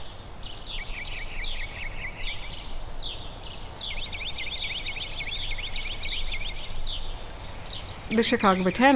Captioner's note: birds chirping